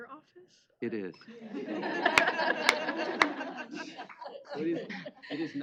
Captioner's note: laughter